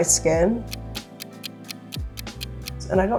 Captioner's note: ticking